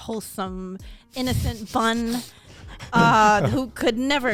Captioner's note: men laughing